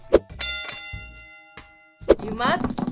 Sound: bell dinging

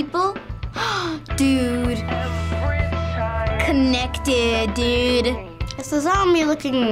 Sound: gasps

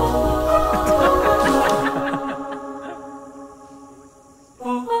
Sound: laughter

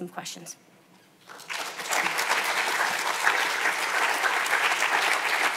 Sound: audience applauds

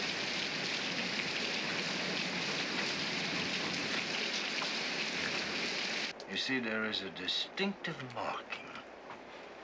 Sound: loud splashing

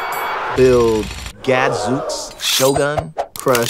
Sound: bell dings; jackhammer runs; audience gasps; sword swings; crunching noise

